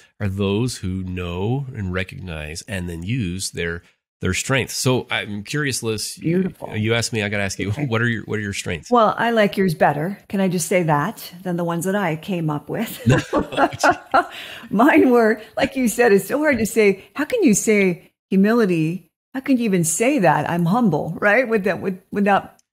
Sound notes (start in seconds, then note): 12.9 laughter